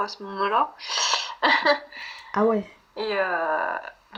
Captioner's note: laughs